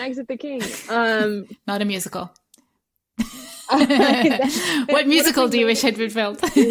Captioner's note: laughter